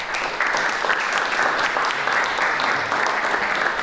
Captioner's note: applause